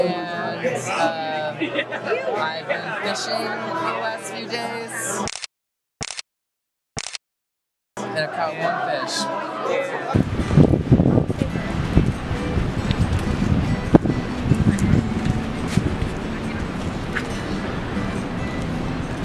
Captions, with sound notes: and I've been fishing the last few days. (camera clicks) And I love fish. (wind crackling)